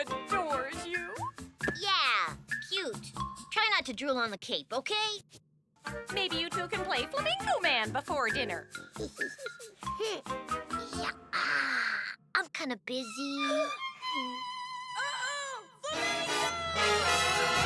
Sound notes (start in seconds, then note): 9.9 boy giggles; 15.9 excited music